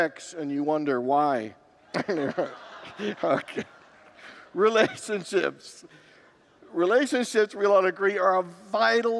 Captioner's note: congregants groan and laugh